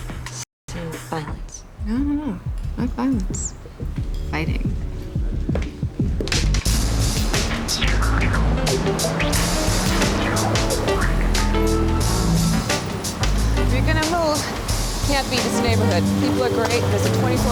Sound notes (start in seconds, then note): none